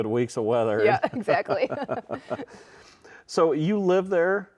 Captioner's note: both chuckling